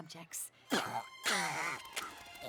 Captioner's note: coughs; spits